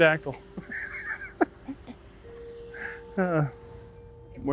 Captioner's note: chuckling